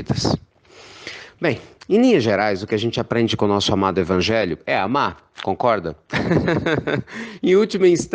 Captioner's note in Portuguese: risos